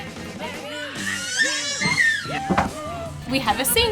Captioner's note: baby squealing